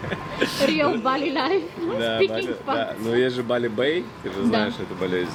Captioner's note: laughing